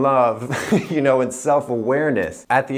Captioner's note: laughing